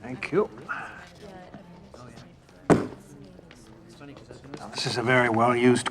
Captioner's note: people continue chattering